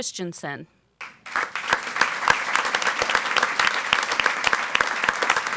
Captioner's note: audience applauds